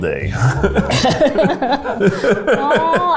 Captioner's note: both laugh